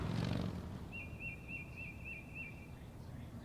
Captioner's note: birds chirping